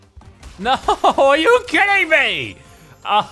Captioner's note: laughs